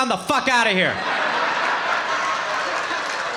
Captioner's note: audience laughing